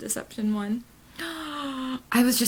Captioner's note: gasp